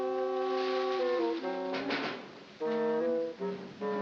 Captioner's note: knocking